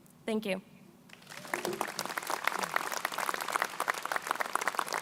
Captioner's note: crowd applauding